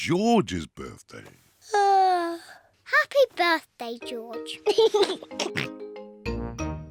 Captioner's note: yawns; laughs and oinks